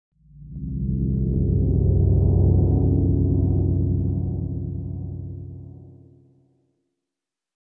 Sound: minecraft cave sounds

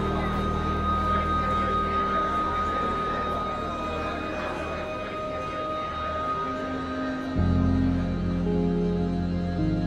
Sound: the people sound getting smaller

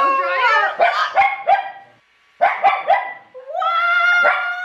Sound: dog yapping

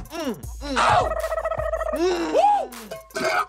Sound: bird trilling

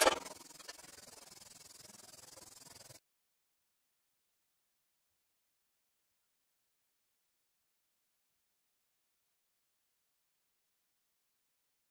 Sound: silence

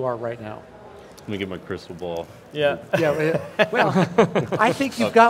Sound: all laugh

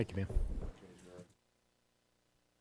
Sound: gavel bangs

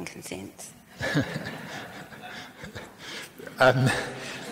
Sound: laughs

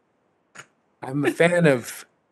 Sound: laughter

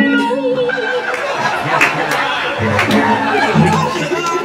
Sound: laughing

